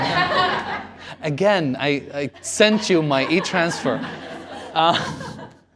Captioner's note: laughter